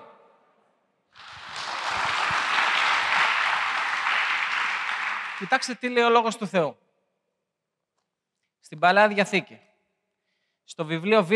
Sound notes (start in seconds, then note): 1.1 applause